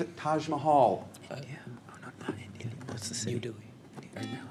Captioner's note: whispers; buzzer